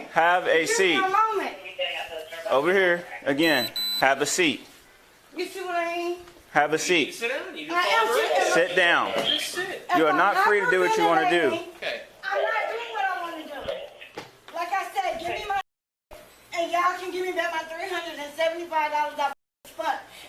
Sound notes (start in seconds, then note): 1.6 radio chatter; 13.6 radio chatter